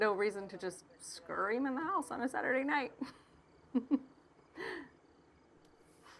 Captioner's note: chuckling